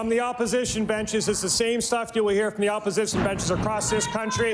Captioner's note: cheering and Applause